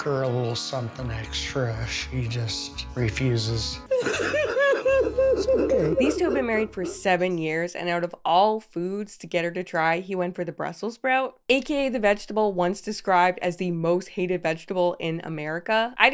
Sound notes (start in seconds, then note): 3.8 cries